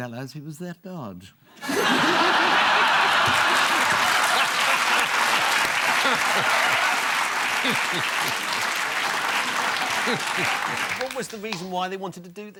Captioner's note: audience laughter and applause